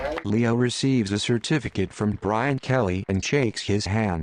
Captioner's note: crowd applauds